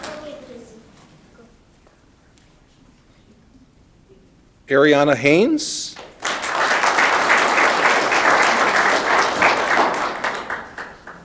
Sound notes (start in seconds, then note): 5.9 audience clapping